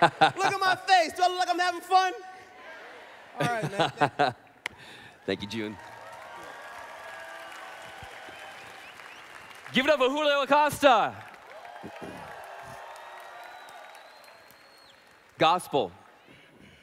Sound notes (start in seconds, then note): 7.4 applause; 11.5 applause